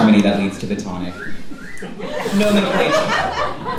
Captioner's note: audience member catcalls